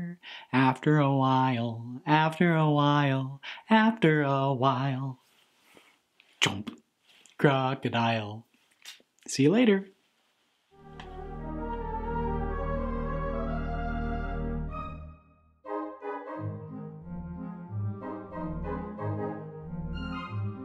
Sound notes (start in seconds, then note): 8.8 smooch; 10.7 closing theme music